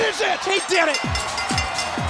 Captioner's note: bell ringing